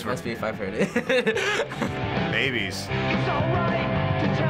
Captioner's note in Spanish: risas